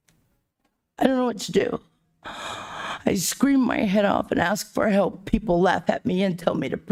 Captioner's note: sighs and gasps